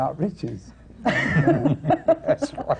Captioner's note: laughter